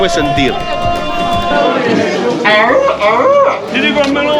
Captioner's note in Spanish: Muchos Gritos